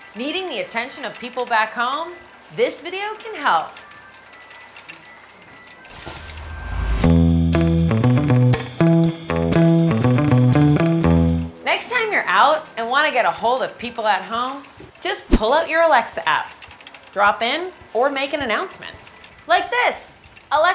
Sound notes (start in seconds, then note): 3.9 cart rattles; 6.4 upbeat instrumental music